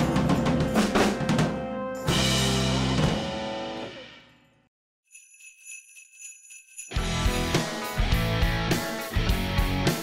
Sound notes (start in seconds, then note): 5.0 bells jingling; 6.9 heavy rock music